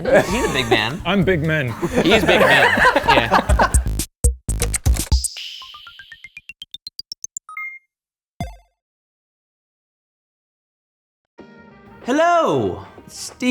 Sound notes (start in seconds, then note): 3.0 laughing; 3.8 upbeat techno music